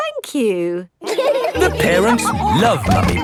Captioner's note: all laughing